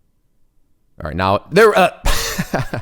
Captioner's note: laughs